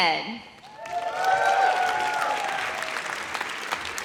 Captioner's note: audience cheers